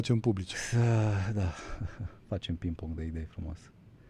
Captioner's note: sigh